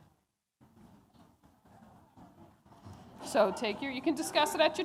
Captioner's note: audience chatter